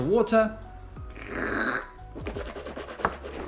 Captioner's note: slurping